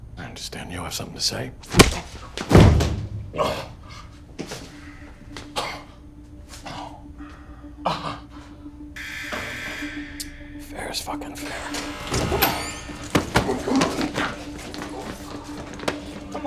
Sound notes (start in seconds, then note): 1.7 fist thumps; 6.6 gasps; 9.0 door buzzes